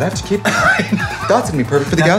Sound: laughing

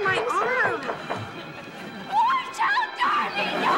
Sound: knocking

